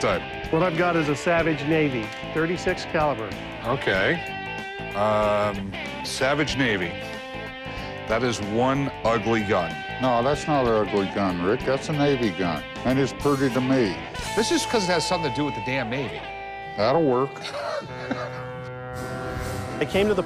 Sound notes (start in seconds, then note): 17.2 laughs